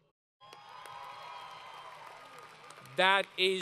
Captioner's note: crowd Cheering